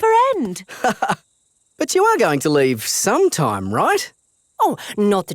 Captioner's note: laughs